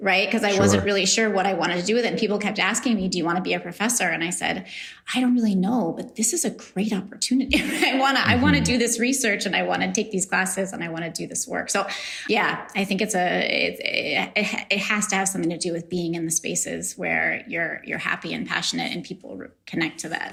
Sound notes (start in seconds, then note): 8.2 laughs